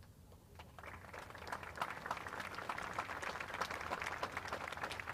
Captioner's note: audience applauds